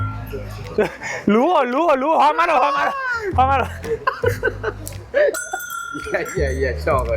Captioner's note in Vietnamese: tiếng cười